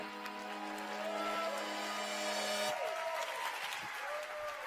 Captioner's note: applause and cheers